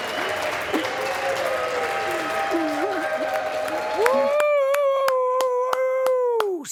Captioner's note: applause